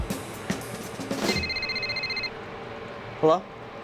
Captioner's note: phone rings